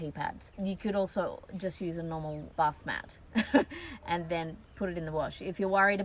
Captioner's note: scoffs